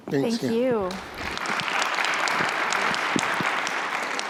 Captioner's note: applause